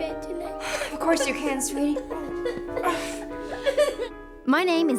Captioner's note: Nate cries